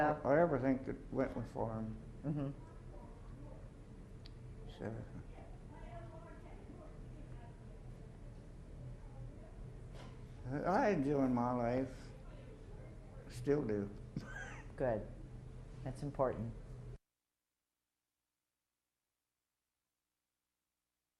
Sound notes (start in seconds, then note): 14.1 chuckles